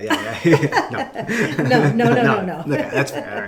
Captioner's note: laughing